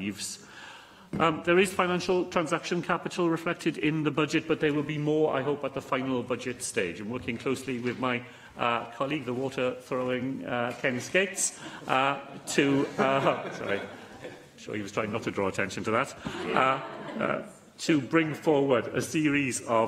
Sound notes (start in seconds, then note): 16.9 laughter